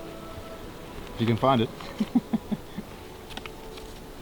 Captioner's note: laughs